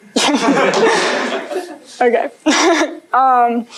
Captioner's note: laughter